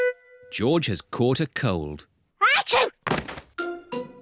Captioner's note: sneezes